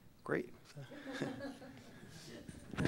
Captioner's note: laughter